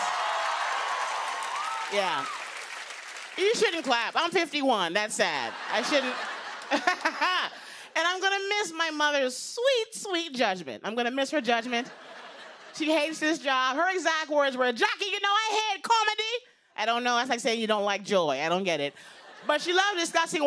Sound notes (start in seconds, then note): 0.0 cheers and applause; 5.3 laughter